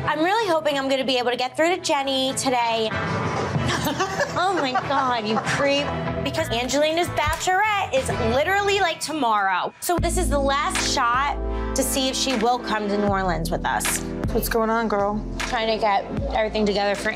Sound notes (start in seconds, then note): 3.1 laughing